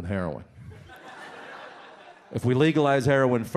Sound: audience laughs

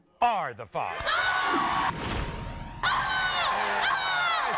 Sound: screaming

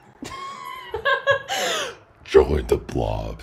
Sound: laughs

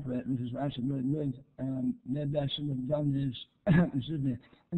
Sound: coughs

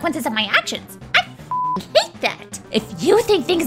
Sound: beep sound

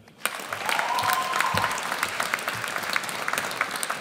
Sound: audience cheers

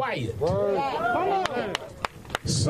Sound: applause

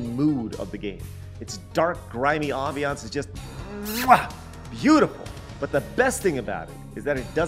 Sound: chef’s kiss

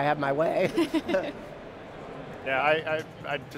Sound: laughing

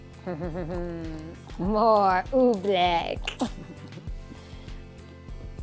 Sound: chuckles

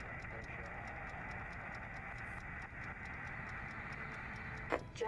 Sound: crowd clapping

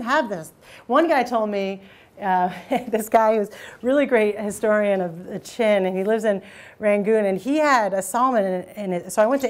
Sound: chuckles

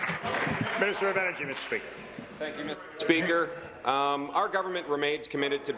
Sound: applause

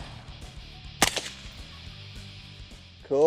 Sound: fires

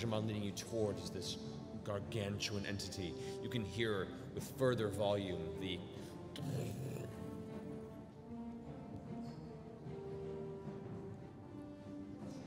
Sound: massive footsteps

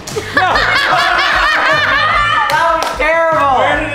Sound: all laughing

